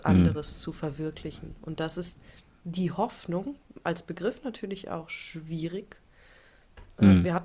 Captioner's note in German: räuspern